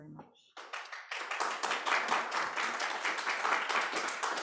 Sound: audience applauding

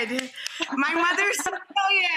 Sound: laughs

